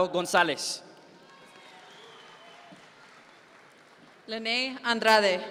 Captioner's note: audience members cheer